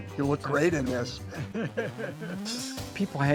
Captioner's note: cameraman laughing